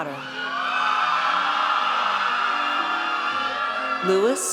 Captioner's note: audience cheers